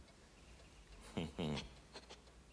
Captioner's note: chuckles